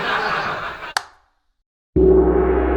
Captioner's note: light switch; gong!